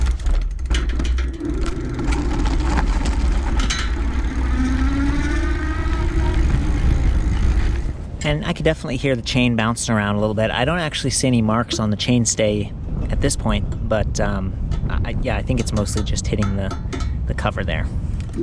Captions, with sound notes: (bicycles tires crunching) (bicycle electric motor roaring) And I could definitely hear the chain bouncing around a little bit, I don't actually see any marks on the chain stay at this point, but yeah I think it's mostly just hitting the cover there.